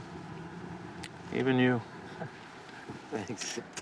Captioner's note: chuckles